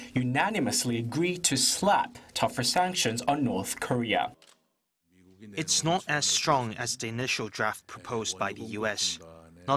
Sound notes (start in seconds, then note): 4.3 Korean